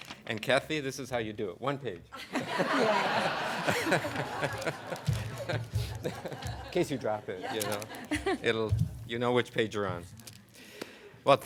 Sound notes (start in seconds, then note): 2.1 laughter